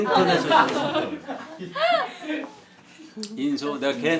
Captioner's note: giggling